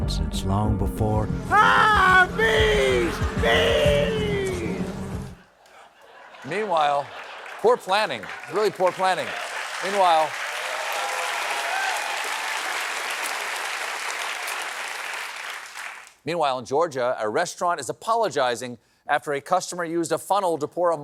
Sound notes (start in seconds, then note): 12.6 applause